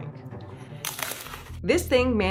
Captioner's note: crackers crunch